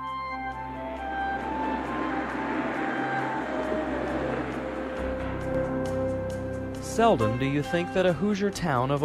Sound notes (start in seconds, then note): 1.8 traffic humming